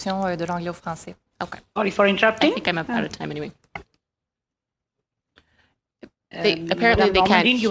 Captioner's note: speaking French